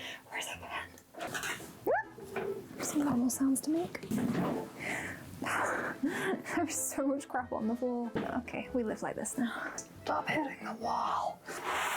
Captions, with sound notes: where's a pen?! *High pitched yelp* Normal sounds to make. There is so much crap on the floor! We live like this now. Stop hitting the wall!